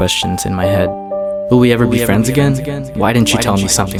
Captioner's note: echo